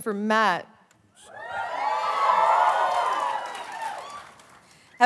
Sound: cheering

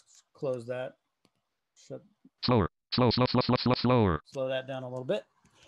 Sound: screen reader reads fast

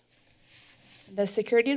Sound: rustling sound

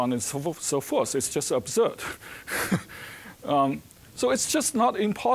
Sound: chuckling

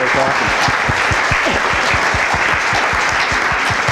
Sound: applause

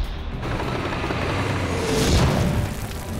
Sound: cannon shots exploding; tank rumbling; cannon shots exploding

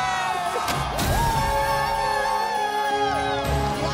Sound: crowd cheering

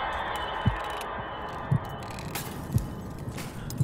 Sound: rummaging continues downstairs; CODY'S heartbeat intensifies

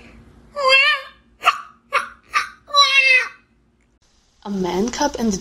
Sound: baby crying

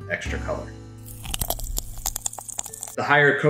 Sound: fizzing

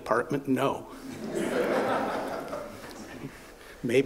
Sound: laughter

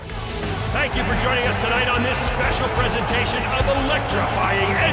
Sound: announcer speaking

